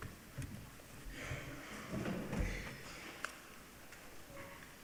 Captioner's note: coughing